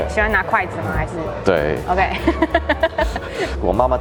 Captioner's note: laugh